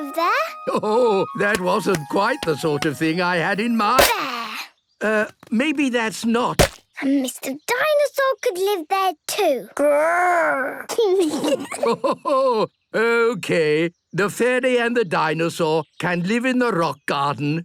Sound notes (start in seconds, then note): 10.8 kids giggling; 11.2 Grandpa laughing